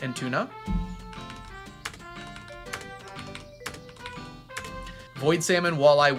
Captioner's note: keyboard clacking